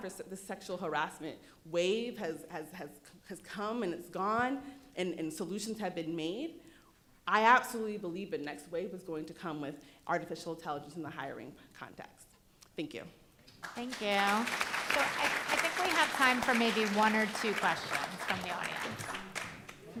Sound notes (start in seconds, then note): 13.6 applause